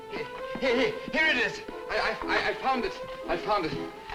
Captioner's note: stuttering